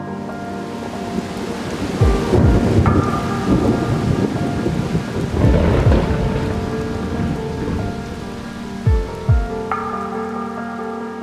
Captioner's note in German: Donner/Sturm